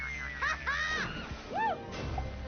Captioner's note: laughs